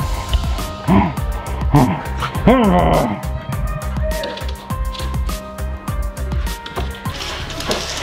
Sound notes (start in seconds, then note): 0.5 growling; 3.8 dramatic music